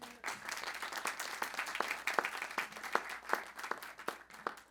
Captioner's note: audience clapping